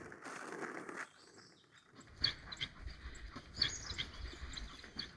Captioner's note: dog panting